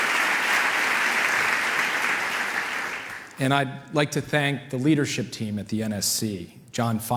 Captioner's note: applause